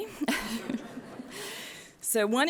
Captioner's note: laughter